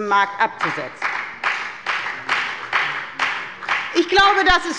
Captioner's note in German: Beifall bei der FDP